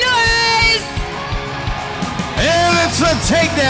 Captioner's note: crowd cheering